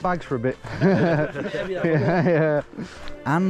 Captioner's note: hikers laugh